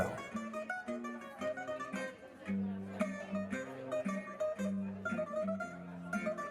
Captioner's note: people chattering